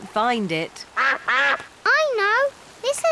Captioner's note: quacking